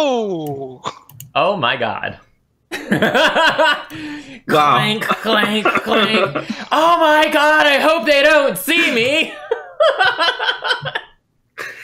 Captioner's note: laughter